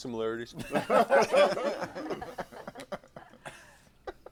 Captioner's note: laughter